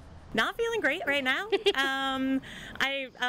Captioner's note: chuckling